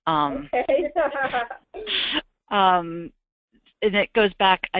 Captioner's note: laughter